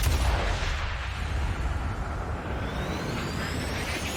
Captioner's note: gun fires